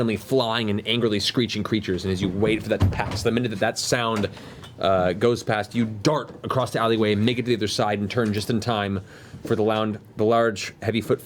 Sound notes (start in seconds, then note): none